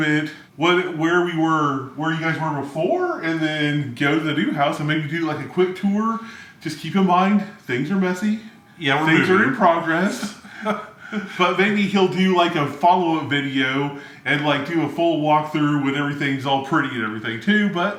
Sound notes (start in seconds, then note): 10.3 chuckles